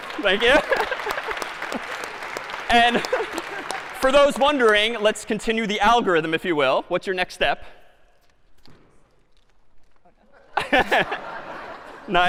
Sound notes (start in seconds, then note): 0.0 applause; 0.4 laughter; 10.2 laughter